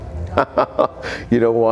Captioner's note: laughing